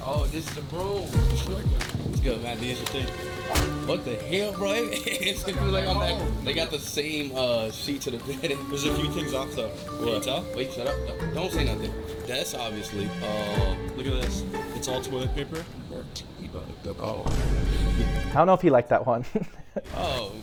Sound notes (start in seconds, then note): 0.0 dramatic music; 4.4 laughs; 17.2 tense music